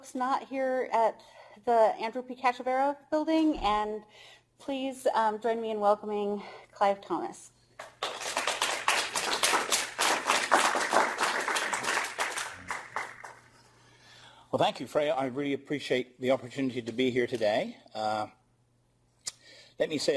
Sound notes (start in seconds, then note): 7.8 applause